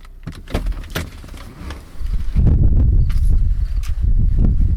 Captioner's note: door opening